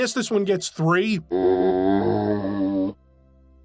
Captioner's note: zombie groan